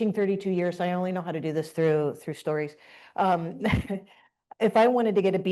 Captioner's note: chuckles